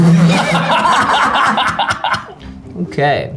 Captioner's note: all laugh